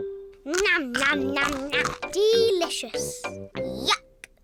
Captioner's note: crunches